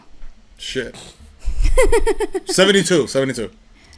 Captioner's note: laughter